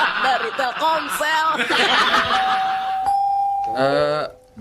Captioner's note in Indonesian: tertawa